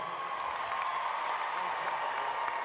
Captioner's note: applause